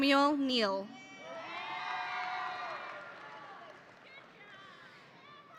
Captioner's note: audience cheering